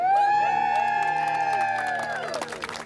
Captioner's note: cheering